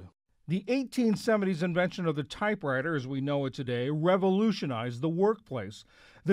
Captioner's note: voice-over